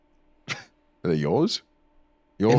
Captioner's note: laughs